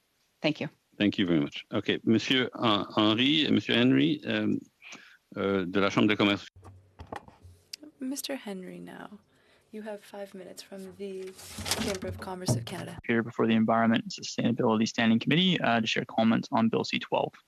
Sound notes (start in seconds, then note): 9.2 speaking French